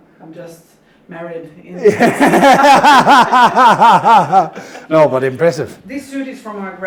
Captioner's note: laughing